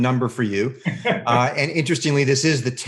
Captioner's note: laughs